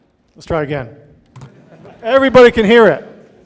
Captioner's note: audience laughing